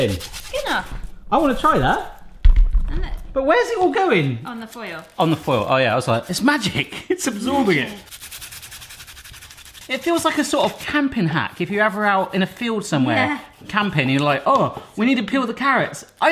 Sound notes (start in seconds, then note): 8.5 scrubbing of foil on carrot